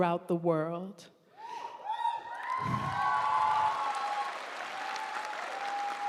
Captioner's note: audience cheering and applauding